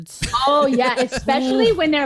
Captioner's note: laughs